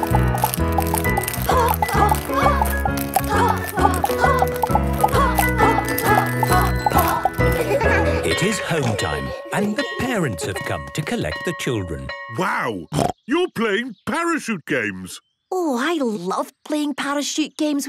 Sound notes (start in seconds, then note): 7.5 laughter; 11.6 snorting